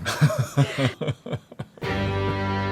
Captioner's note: laughs